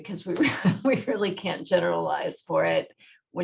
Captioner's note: laughter